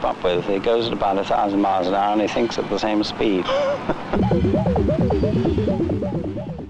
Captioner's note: chuckling